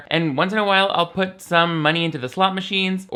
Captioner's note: none